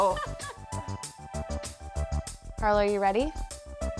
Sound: laughing

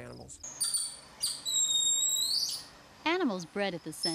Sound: golden Lion Tamarin high-pitched sounds

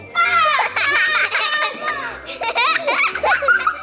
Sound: laughing

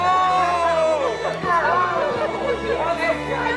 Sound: all laughing

